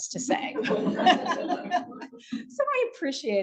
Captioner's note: audience laughing